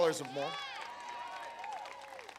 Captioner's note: applause